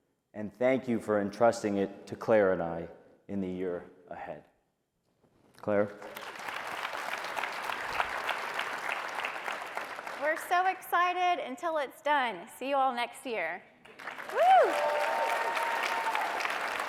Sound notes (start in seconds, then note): 5.9 applause; 13.8 applause and cheering